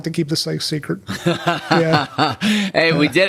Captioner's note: Paul laughing